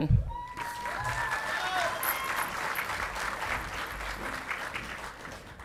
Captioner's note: audience clapping and cheering